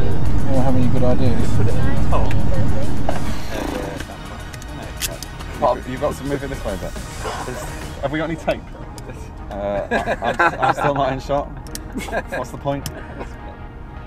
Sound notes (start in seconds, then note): 3.5 prrrrp; 9.7 laughing